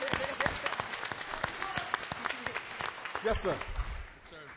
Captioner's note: applause